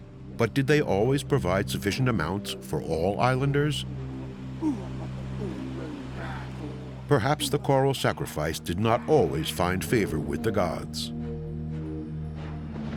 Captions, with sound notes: But did they always provide sufficient amounts for all islanders? [chanting] Perhaps the coral sacrifice did not always find favor with the gods.